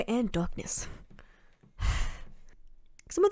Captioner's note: sighs heavily